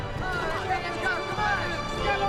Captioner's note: men yelling